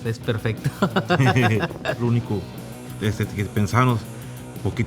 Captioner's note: laugh